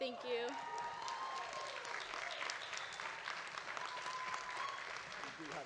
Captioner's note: audience applauding